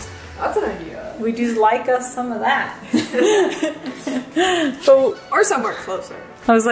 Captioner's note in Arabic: كلاهما يضحك